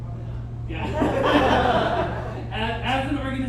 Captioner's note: audience chuckles